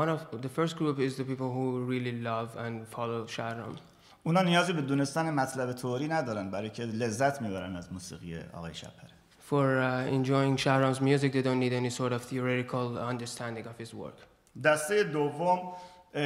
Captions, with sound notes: The first group is the people who really love and follow Shahram. [SPEAKING IN FARSI] For enjoying Shahram's music, they don't need any sort of theoretical understanding of his work. [SPEAKING IN FARSI]